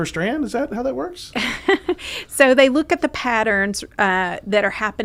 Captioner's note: laughs